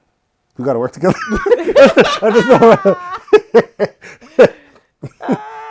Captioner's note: laughing